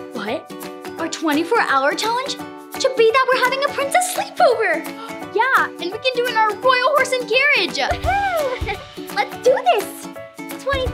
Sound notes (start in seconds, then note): 5.1 gasps